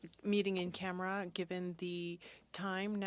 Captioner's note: speaking French